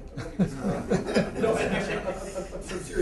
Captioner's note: laughter